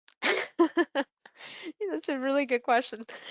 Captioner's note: chuckling